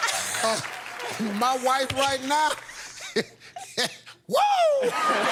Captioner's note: applause; chuckles